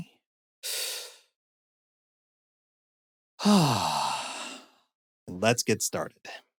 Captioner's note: inhaling and exhaling deeply